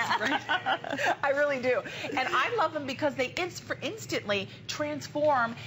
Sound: laughter

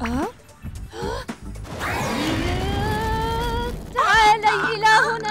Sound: gasps; screaming

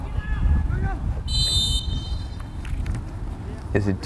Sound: whistle blows

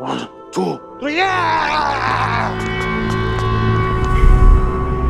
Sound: manager yells; dramatic music

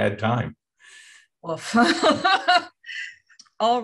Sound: laughter

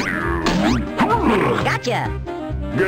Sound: grunts

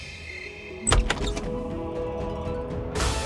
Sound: door opening

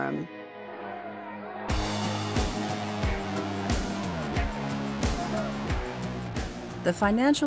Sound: nervous crowd; tense music

